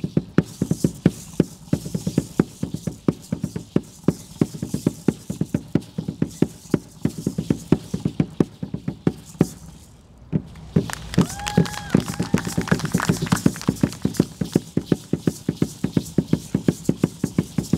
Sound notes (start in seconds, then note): 10.5 audience applauding and cheering; 13.3 drum beating and rattles sounding